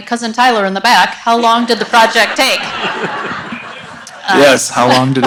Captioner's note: audience laughs